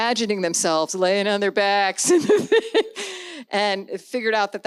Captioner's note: laughs